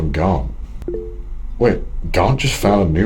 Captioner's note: mobile chimes